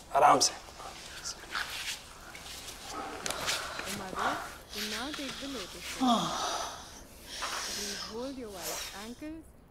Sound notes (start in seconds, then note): 4.0 breathes heavily